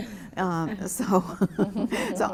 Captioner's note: laughter